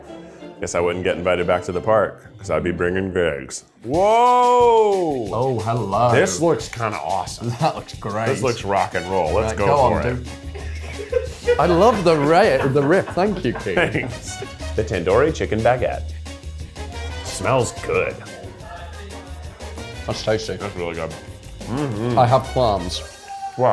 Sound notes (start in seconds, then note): 10.7 crew laughing; 19.2 upbeat jazz music